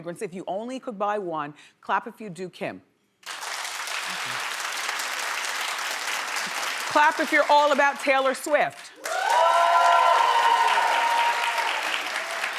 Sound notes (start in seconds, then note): 3.2 audience applause; 9.0 audience cheering